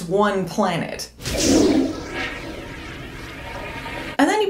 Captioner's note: flush noise